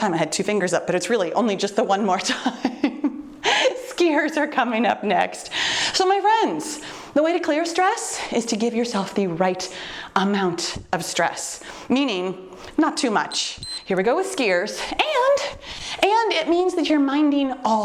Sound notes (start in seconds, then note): 2.2 chuckles; 13.2 timer beeps